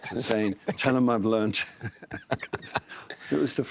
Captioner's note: laughs